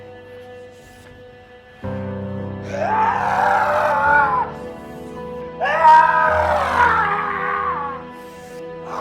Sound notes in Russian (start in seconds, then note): 2.6 дикие вопли